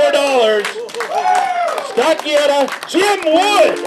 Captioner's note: clapping and cheering